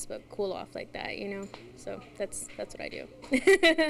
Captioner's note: laughs